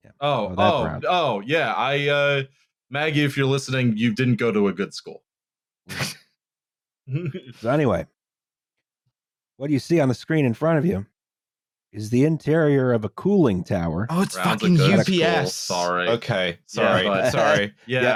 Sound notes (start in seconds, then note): 6.2 laughs briefly; 7.1 chuckles